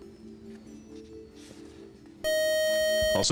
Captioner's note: beep